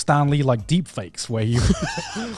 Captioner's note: laughs